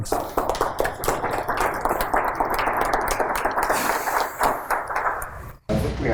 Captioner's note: audience applauding